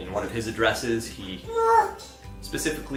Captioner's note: child grunting